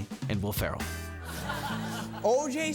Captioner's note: attendees laughing